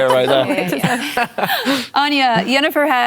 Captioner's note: laughter